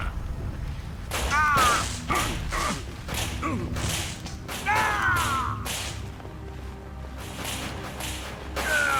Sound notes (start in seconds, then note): 0.0 fire sparking; 1.1 character grunting